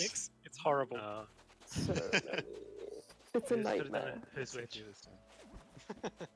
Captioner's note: laughing; laughing